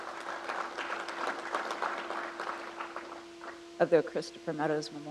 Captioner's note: crowd applauds